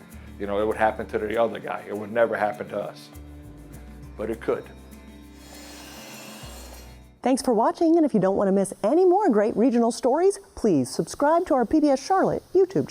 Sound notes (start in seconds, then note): 5.1 ambient music; 5.4 machine whirring